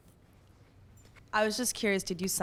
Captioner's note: voiceover